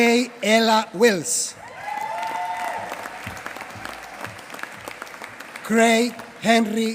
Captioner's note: applause